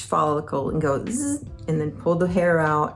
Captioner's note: imitates laser buzzing